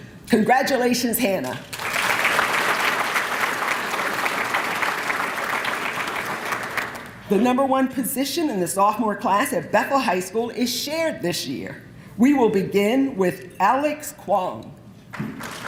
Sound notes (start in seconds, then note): 1.4 applause